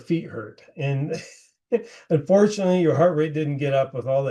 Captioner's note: laughing